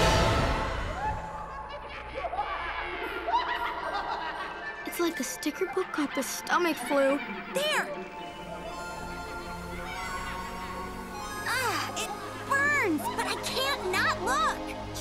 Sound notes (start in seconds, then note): 1.6 cackling; 8.4 magical music playing